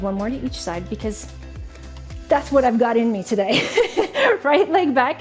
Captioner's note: laughing